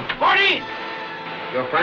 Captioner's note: knocking